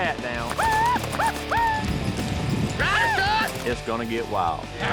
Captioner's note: shouting